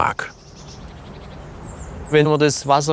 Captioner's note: birdsong